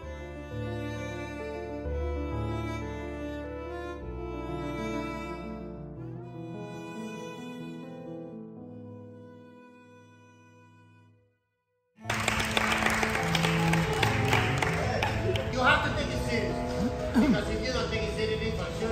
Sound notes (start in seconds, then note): 12.0 applauses